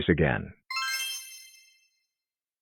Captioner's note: magic spell sound plays